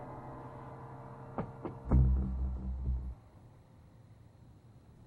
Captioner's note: knocking on the door